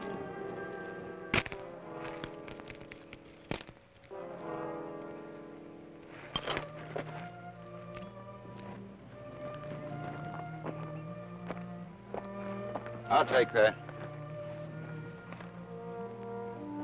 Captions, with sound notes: (manacles clack) (warm orchestral music) - I'll take that.